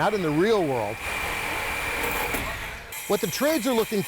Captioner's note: sawing